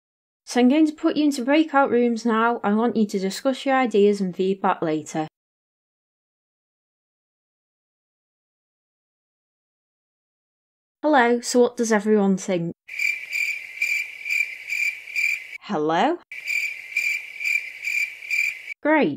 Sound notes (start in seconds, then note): 12.9 crickets